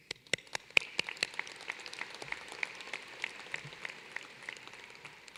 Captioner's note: applause